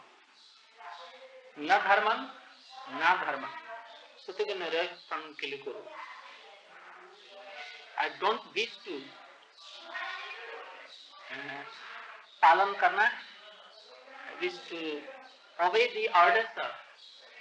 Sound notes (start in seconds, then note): 10.4 Hindi